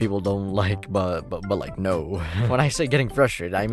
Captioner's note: laughs